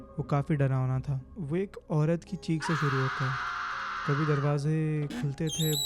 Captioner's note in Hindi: चीखने की आवाज़